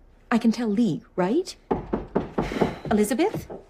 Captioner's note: knocking